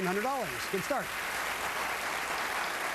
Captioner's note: applause